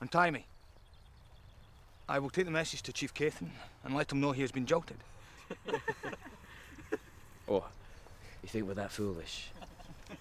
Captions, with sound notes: - Untie me, I will take the message to chief Cathen and let him know he has been jilted. (laughing) - Oh, if we were that foolish.